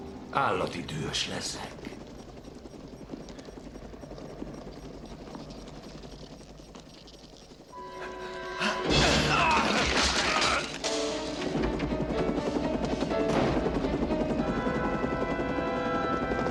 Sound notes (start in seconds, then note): 3.6 beeping very fast; 5.5 helicopter blades whirring